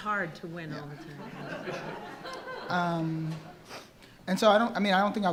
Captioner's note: attendees laughing